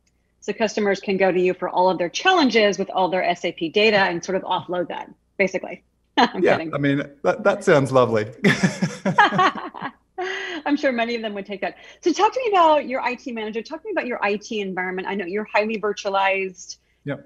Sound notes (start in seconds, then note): 6.2 laughs; 8.4 laughs